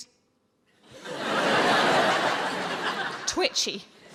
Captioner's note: audience laughs